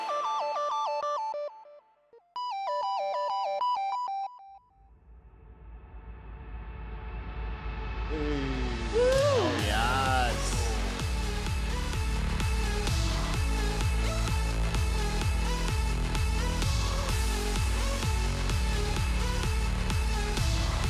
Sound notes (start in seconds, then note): 0.0 bright electronic music; 7.6 suspense music; 8.2 group cheering; 9.0 upbeat music